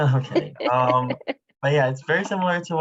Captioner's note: laughing